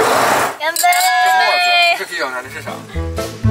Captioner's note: cheers